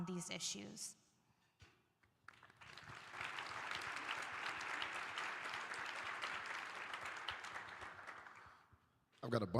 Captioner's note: applause